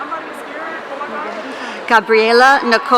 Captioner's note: audience cheering